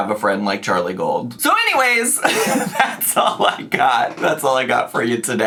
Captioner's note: laughs